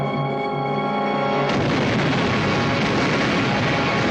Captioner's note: blasting